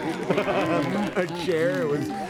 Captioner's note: applause; laughs